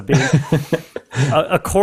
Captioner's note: laughs